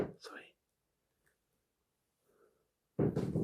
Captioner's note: none